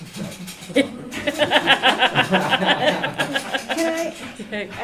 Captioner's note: laughter